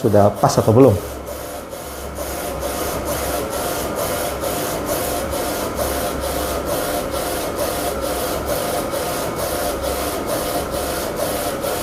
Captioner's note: printer machine noise